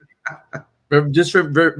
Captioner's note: laughing